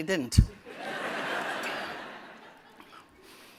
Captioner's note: laughter